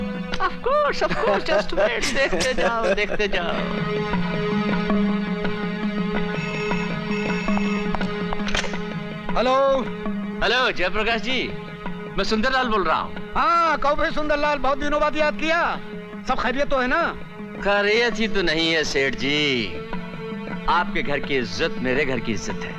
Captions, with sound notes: Of course. Just wait and watch. Watch it. - (Laughs) (Phone ringing) Hello. Mr. Jayprakash, Sunderlal here. - Hello! Thought of me after many days. Is everything okay? - It is not, sir. Your family honour is my honour.